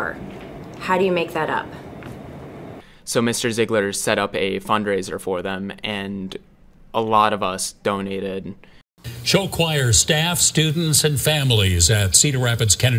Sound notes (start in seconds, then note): 9.0 TV news